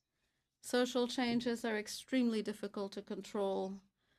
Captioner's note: speaking in French